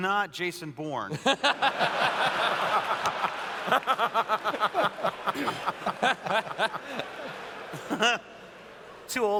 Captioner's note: laughter